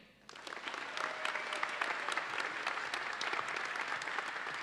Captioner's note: audience applauds